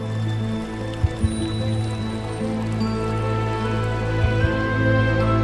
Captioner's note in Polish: w tle szum wody spływajacej po kamieniach